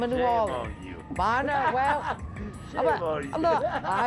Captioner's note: laughs